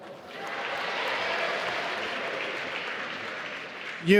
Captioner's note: applause